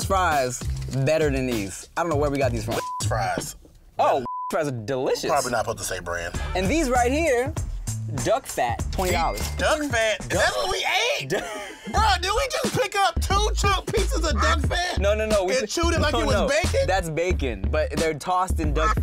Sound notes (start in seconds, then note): 2.8 beep